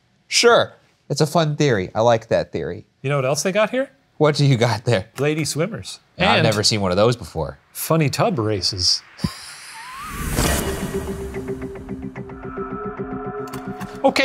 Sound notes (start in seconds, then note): 9.3 laughing; 9.5 curious music